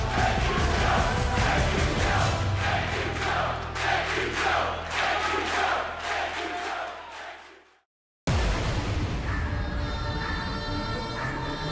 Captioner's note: fans chanting